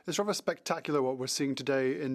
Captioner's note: speaking French